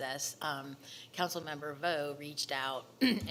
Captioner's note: clears throat